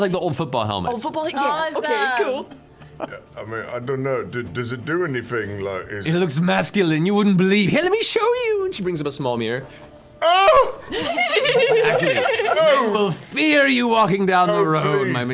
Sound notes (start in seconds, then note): 10.2 screams; 10.9 everyone else laughs